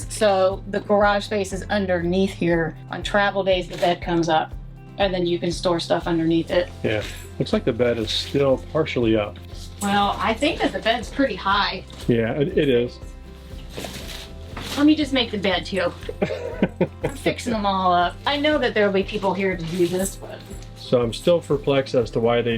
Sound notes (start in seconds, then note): 16.1 laughs